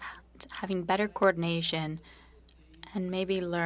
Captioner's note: speaking French